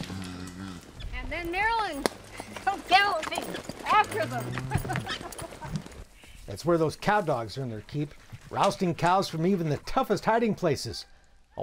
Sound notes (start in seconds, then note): 4.1 laughs